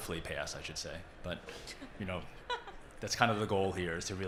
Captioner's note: laughing